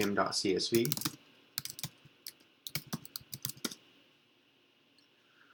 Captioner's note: keyboard clicks